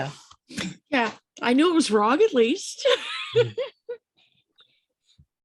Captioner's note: laughs